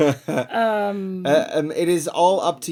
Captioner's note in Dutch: laughing